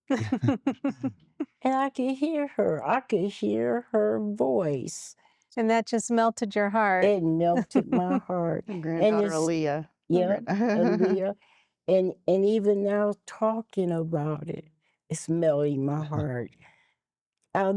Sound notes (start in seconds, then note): 0.1 laughter; 7.4 giggling; 10.4 giggling